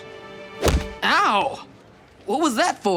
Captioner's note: crash